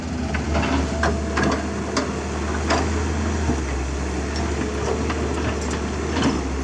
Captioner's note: engine Rev